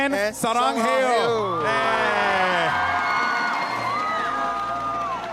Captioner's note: cheering & applause